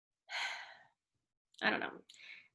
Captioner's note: sighs